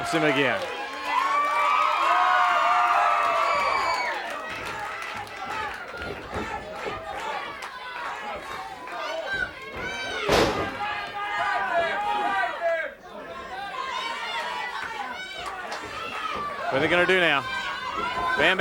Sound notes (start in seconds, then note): 1.3 audience cheering and clapping; 10.2 fist thuds